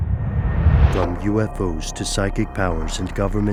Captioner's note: voiceover